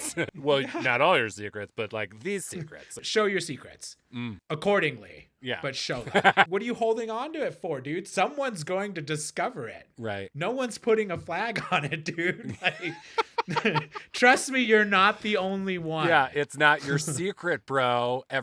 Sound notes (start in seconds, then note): 12.4 laughing